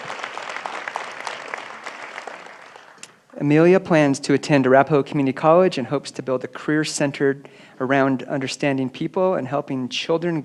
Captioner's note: applause